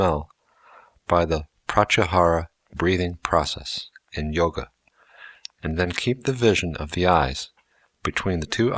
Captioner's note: breathing